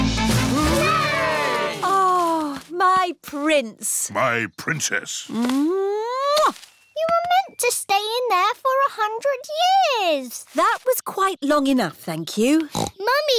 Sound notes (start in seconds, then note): 0.4 all cheering; 5.3 kisses; 12.6 snorts